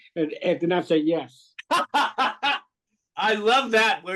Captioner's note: laughter